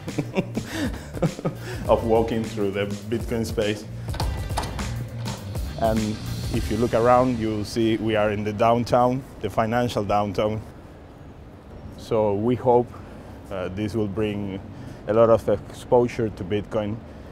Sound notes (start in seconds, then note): 0.0 chuckles; 4.0 unlatching door